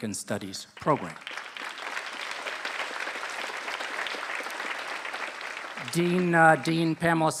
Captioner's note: applause